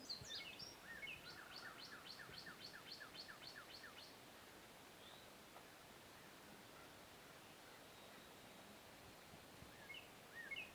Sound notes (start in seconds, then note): 0.0 birds tweet